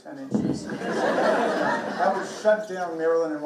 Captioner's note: everybody laughing